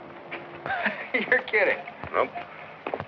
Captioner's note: laughing